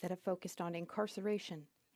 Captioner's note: speaking French